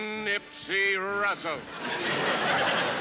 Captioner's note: laughter